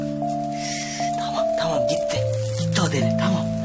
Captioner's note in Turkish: Fısıldar